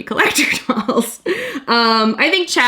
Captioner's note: laughs